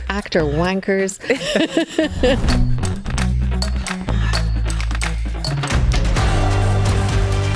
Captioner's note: upbeat music; both laughing